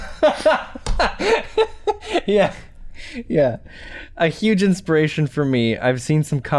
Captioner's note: chuckles